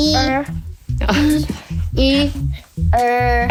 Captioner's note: laughs